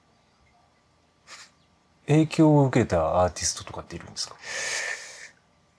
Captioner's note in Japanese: 鼻息